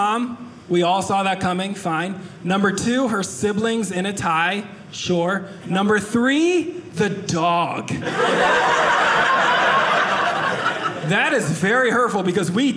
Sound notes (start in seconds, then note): 8.0 audience laughing